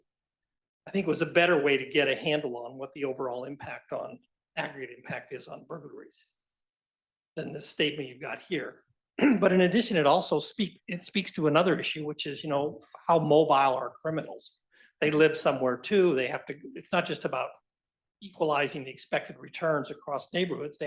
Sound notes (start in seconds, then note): 9.2 cough